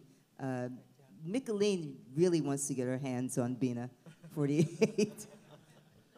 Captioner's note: laughs